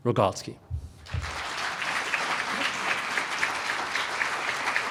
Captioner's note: applause